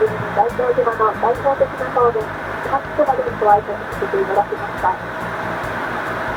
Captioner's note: island language